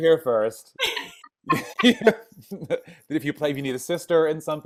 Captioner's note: laughing